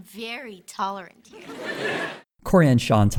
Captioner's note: audience laughter